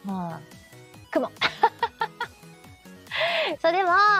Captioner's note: laughter